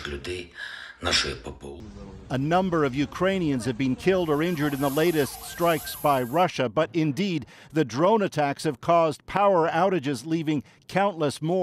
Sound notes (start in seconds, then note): 4.4 speaking alternate language